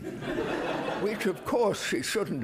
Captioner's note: audience laughing